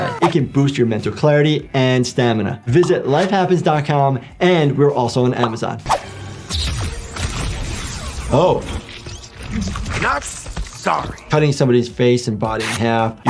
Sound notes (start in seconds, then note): 5.8 dramatic music; 6.6 laser rumbling